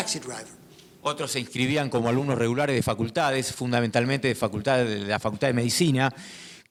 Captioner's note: speaking in foreign language